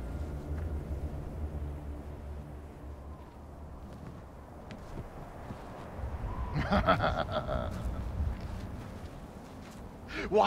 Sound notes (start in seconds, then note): 3.3 wind howling; 6.5 Rahel laughing